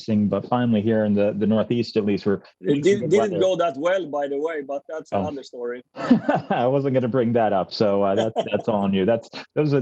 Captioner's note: laughter